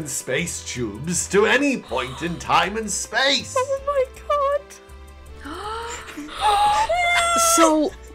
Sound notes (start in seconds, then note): 1.8 gasps; 5.1 gasps and general shocked noises